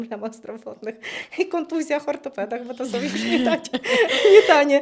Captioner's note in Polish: śmiech